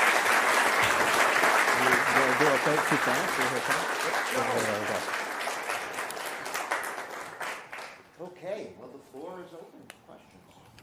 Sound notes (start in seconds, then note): 0.0 applause